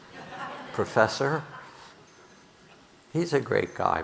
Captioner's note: audience laughing